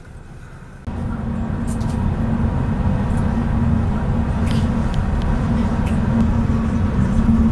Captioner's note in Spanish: Sonido del bus andando